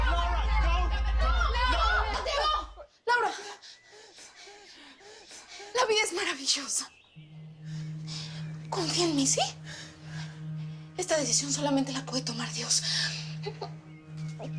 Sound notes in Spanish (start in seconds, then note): 3.3 Laura jadea